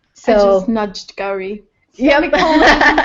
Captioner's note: laugh